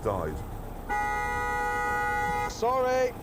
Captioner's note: car horn blares